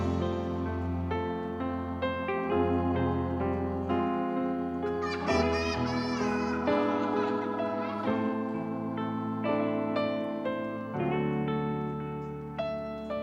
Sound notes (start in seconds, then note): 0.2 soulful music continues; 4.9 child laughing; 8.1 soulful music continues